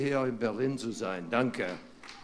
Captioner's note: applause